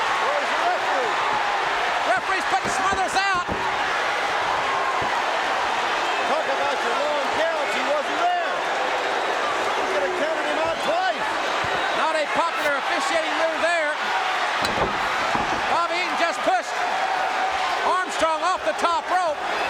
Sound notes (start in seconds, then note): 3.6 audience cheering; 9.3 audience cheering